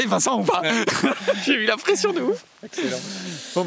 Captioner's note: laughs